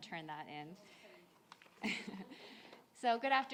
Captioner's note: audience members chuckle